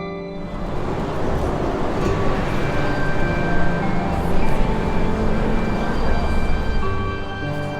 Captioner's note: music slows; traffic rumbling